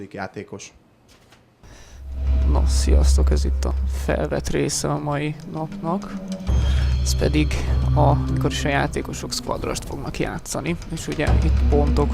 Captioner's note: hungarian Commentary